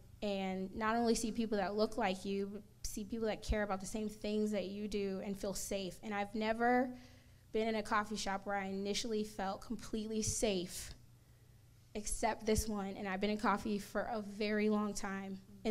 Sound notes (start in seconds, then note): none